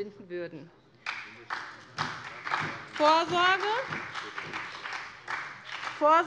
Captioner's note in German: Beifall bei der SPD